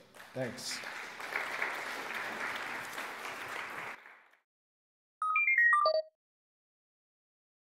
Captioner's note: applause